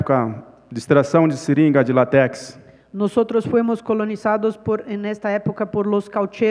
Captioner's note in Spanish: Ponente habla en portugués